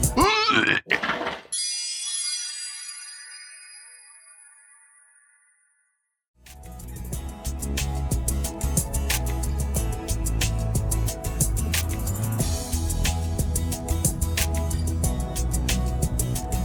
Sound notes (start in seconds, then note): 0.1 projectile vomiting; 0.1 loud shitting; 1.5 strange psychedelic noises